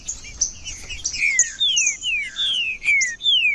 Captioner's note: trinca ferro cantando